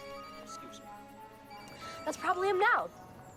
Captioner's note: phone ringing